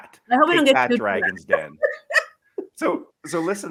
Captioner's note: laughs